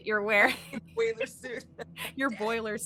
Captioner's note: laughing